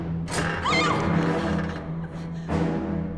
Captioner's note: female scream